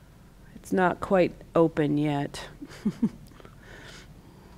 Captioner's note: chuckles